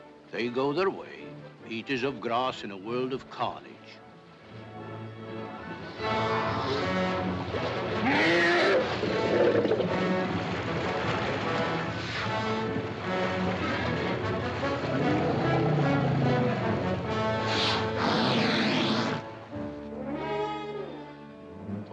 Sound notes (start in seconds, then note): 4.7 dramatic music; 7.9 elephants growl & splash; 10.6 dramatic music; 10.6 water splashing; 19.6 ominous music